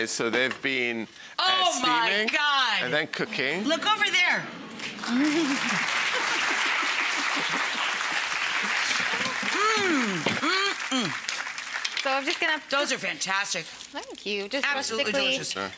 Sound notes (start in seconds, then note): 4.7 audience clapping